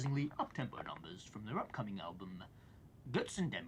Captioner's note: speaks foreign language